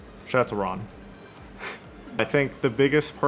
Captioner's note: laughing